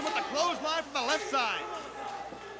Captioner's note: crowd chatter